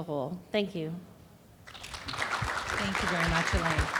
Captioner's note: audience applauding